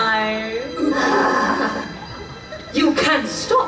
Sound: Mary and Sarah laugh nefariously

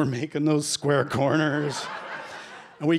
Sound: laughter

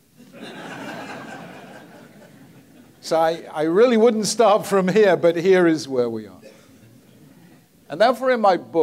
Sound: audience laughs

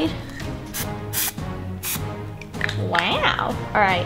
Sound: spray paint oozing

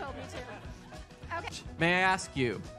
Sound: laughter

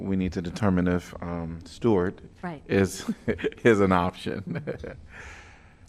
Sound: laughter

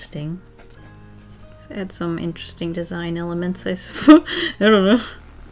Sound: laughs

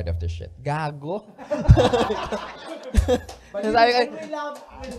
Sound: laughter

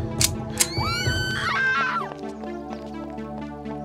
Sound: gun cocks; woman screams

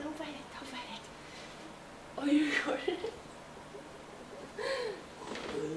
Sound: laugh

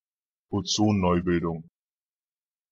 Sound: fast Pronunciation

